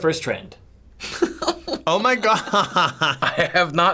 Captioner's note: snickering